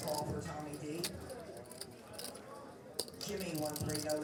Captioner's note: poker chips clacking